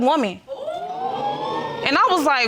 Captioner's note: crowd wooing